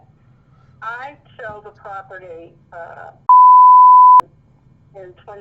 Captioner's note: beep